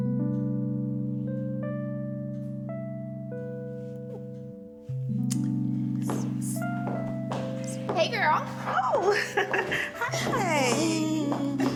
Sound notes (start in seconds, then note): 6.0 indistinct chattering; 9.0 chuckling